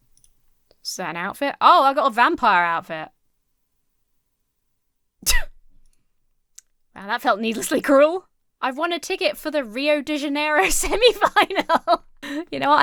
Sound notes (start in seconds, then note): 5.4 wheezes; 10.6 laughs